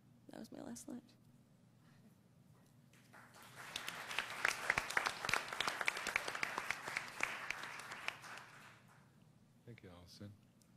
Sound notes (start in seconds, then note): 3.0 applause